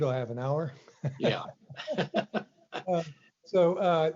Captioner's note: laughs